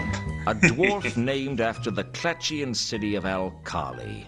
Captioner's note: laughs